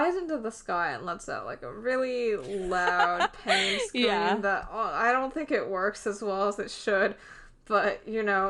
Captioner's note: laughs